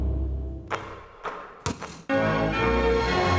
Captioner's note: light music; basketballs thumping; dramatic music